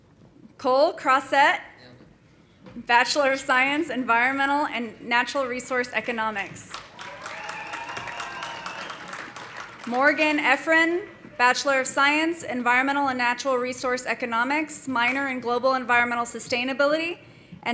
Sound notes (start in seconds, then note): 6.0 audience applauding; 6.8 audience cheering